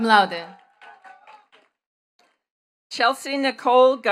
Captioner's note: attendees cheering and clapping